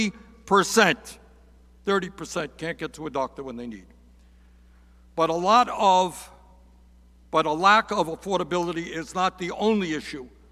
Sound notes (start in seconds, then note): none